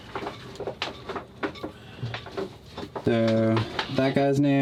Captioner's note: boat parts clattering